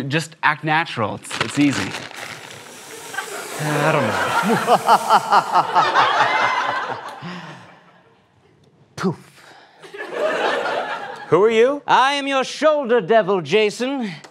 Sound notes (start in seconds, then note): 5.0 evil laugh